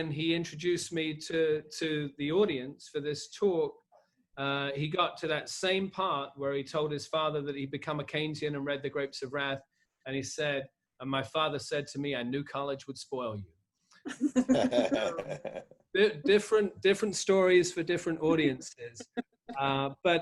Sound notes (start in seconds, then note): 14.1 laughing